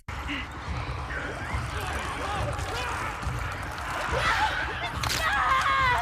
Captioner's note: characters shouting and screaming